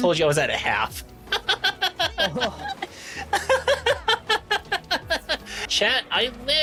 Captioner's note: laughter